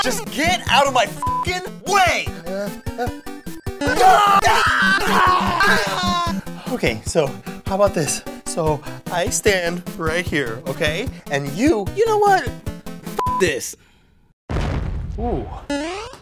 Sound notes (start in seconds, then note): 3.8 Anthony screeches; 14.5 boom!